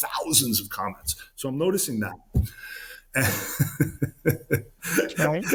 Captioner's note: laughs